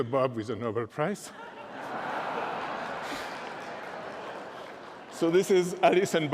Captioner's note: laughter